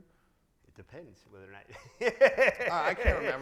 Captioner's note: laughs